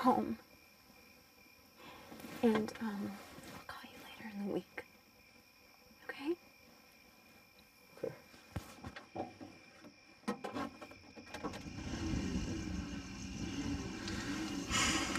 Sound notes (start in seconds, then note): 0.8 crickets chirping; 5.4 cricket chirping; 10.2 clattering; 11.4 car engine running